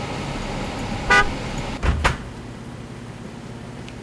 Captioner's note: horn honks